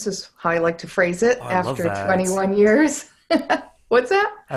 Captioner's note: laughs